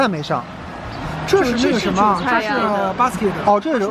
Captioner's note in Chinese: 七嘴八舌中